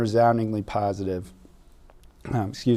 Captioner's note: clearing throat